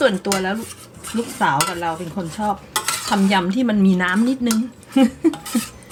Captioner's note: laughs